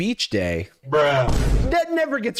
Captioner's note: bruh sound effect